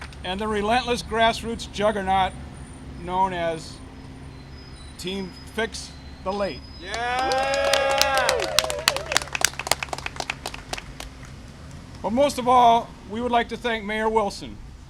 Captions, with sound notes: -And the relentless grassroots juggernaut known as Team Fix the L8. (applause and cheering) But most of all, we would like to thank Mayor Wilson.